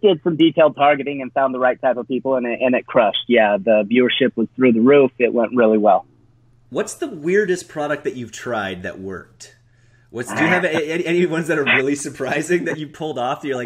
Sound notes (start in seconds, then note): 10.2 laughs